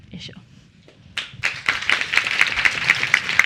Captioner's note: applause